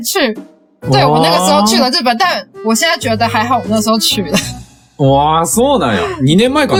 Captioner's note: laughs